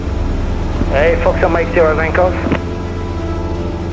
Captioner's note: radio chatter